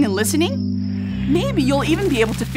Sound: squirrel call, owl hoot

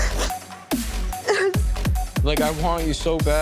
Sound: cries

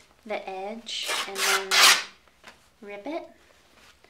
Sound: sheet ripping

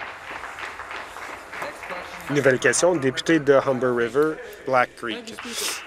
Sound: applause

